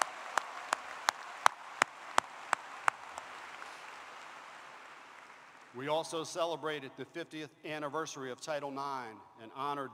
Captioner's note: applause